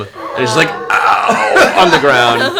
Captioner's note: laughs